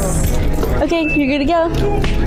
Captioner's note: music and nat sound up full; music under; bell ringing sound effect; music and nat sound up full